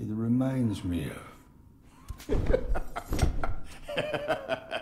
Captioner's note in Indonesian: Semburan tertawa